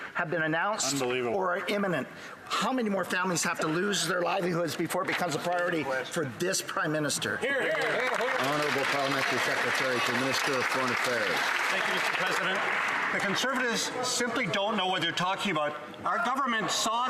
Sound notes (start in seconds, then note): 10.0 some Applause